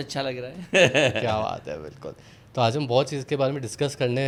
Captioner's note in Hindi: हंसी